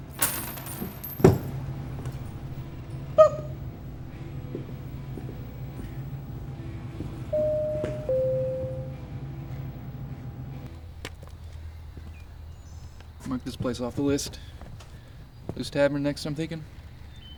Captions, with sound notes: (change clanging) Bop. (door entry bell dinging) - We'll mark this place off the list. Lou's Tavern next I'm thinking.